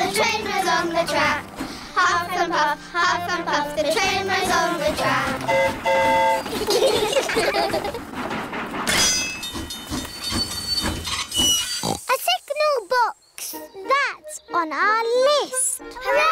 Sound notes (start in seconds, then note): 5.4 train horn toots; 6.4 all giggle; 9.6 tinging; 11.6 oinks